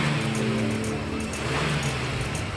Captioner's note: sizzling